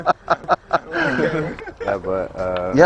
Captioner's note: laughs